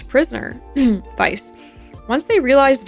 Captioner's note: ahem